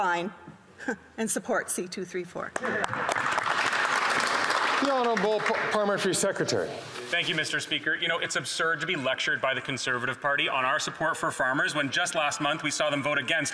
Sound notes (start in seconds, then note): 5.6 some Applause